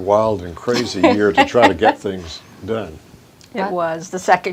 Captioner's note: chuckles